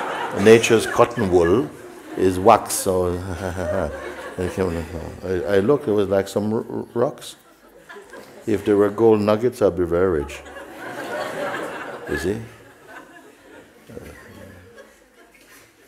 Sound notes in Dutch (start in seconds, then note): 12.7 gelach